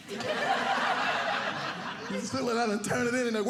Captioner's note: audience laughing